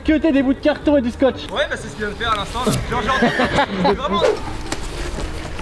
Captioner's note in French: rires